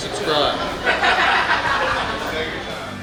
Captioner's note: hahaha